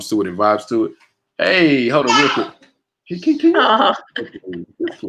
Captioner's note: murmurs